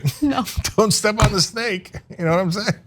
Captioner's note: laugh